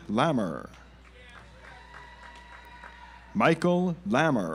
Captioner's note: audience applauds